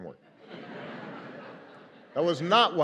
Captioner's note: laughter